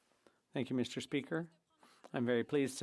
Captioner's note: speaking French